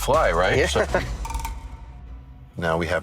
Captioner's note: laughs